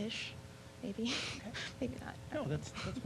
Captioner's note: laughing